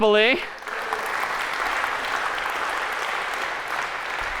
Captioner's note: applause